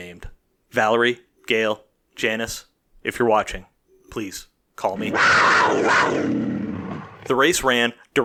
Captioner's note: cougar snarl